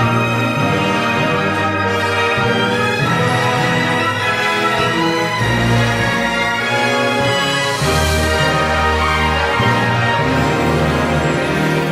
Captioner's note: shouting